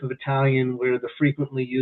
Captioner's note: chuckles